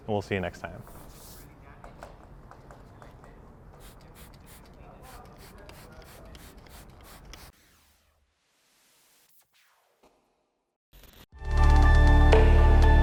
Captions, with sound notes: and we'll see you next time. (spraying) (upbeat music)